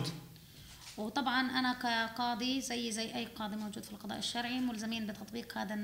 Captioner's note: speaking arabic